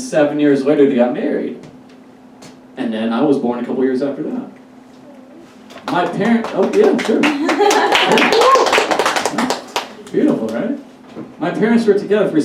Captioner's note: unexpected Applause Break